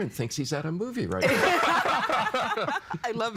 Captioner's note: all laughing